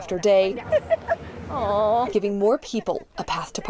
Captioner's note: women laughing